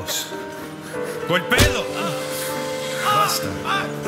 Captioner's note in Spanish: sonido de golpe